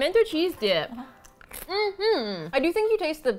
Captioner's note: hums excitedly